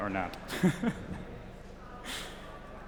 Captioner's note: chuckles